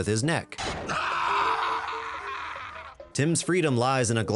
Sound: timothy screaming

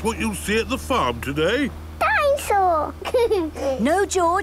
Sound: giggles

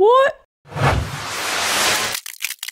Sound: whoosh!

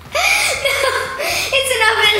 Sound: laughs

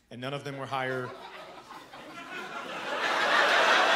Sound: audience laughing

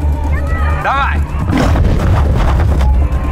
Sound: leopard’s snarl

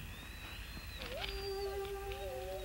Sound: Shep whining; melancholy music

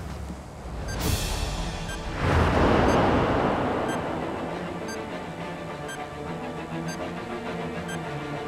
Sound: bomb beeps

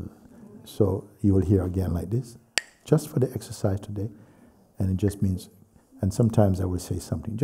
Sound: clacks sticks

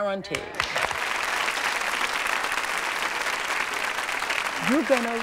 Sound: applause

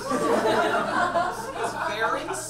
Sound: audience laughs

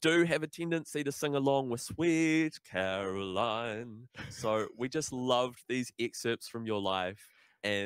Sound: chuckles

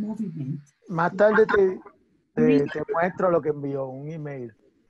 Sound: speaking spanish

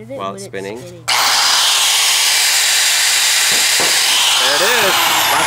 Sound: saw buzzing

